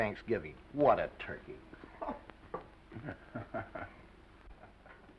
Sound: chuckles

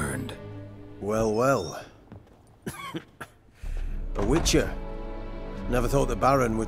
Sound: cough

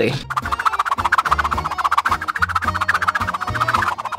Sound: whooshing noises

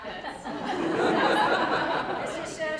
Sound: crowd laughs

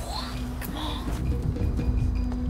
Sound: whispers

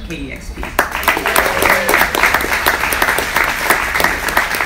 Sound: audience applauds

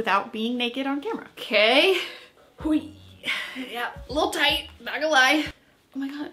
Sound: exclaims

